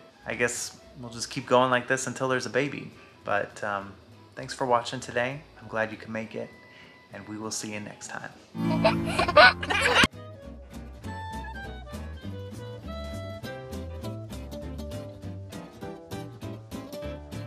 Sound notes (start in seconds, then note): 8.6 giggling; 8.6 upbeat music